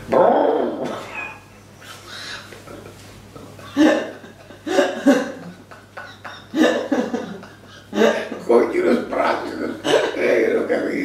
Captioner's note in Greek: γέλια